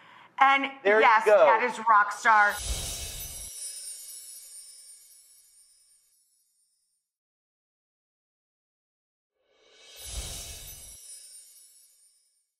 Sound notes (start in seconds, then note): 2.5 chimes tinkling